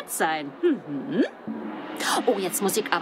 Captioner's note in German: Gong